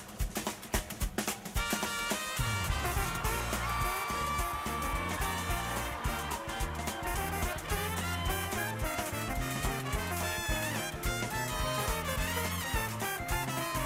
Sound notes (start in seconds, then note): 4.8 cheering